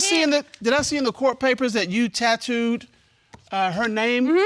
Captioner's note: stuttering